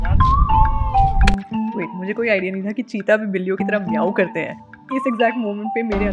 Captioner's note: keyboard clicks